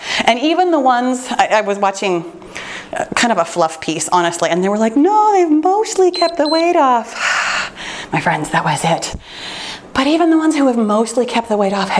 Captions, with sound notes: And even the ones I was watching kind of a fluff piece honestly and they were like, no they've mostly kept the weight off. (timer beeps) (sighs) My friends that was it. But even the ones who have mostly kept the weight off